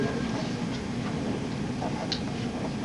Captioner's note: none